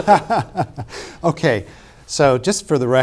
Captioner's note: laughs